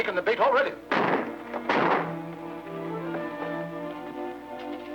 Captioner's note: gunshots popping